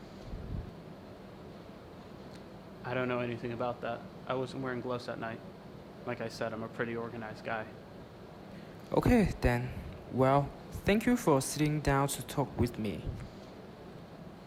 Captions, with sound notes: I don't anything about that. I wasn't wearing gloves that night. Like I said, I'm a pretty organized guy. (Voiceover) Ok, then well thank you for sitting down to talk with me.